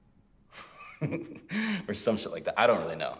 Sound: laughs

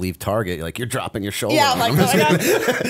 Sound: laughter

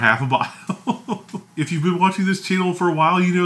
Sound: laughs

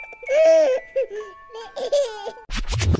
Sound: audio scrambling; baby laughing

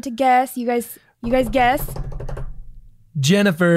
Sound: mimics drum roll

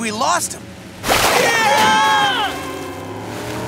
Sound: screaming

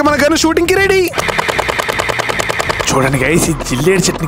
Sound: shooting sounds

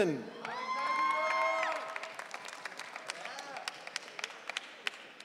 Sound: audience cheering

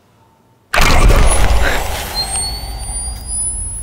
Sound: gasps

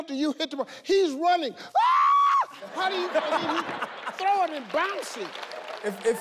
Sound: screams

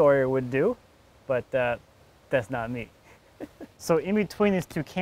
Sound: laughs

